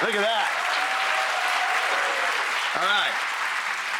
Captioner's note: audience cheering